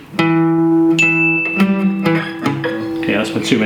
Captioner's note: plucking Guitar Strings; alarm Sounds